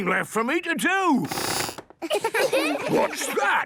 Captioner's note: squeaks